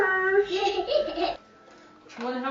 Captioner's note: toddler giggles